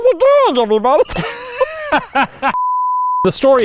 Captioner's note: both chuckling